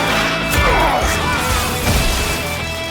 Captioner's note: King Howl yells